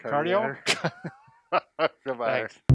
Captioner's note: laughing